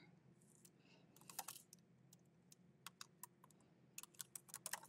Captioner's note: keyboard clicking